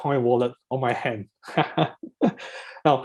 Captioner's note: laughs